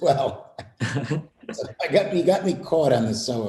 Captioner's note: laughter